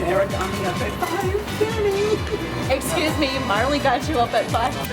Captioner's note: laughing